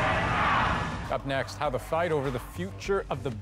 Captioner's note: chanting